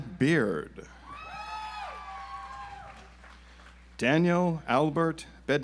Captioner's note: audience applauds